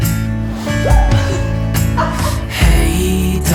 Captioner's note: laughs